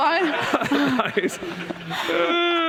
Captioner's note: laughter